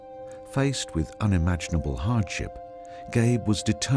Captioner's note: voiceover